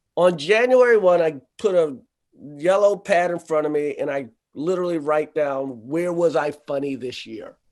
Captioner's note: none